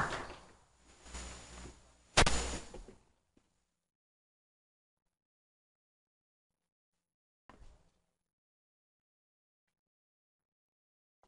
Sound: applause; microphone noises

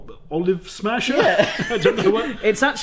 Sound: both laugh

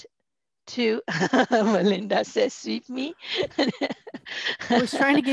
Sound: laughter

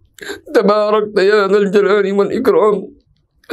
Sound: arabic

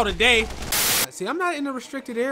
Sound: static

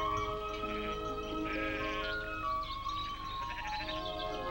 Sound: sheep bleating

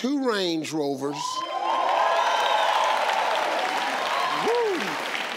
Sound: audience cheering

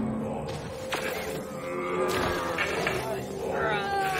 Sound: groaning

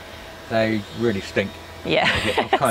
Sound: laughs

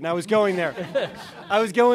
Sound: laughter

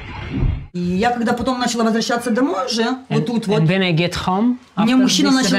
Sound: speaking in foreign language

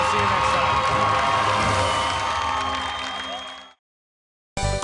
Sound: cheers and applause

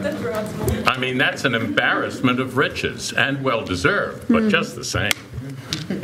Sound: laughter

